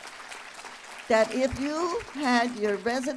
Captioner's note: applause